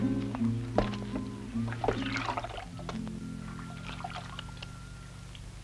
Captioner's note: water splashing